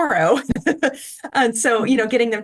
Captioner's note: laughter